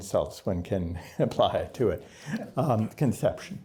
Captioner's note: laughter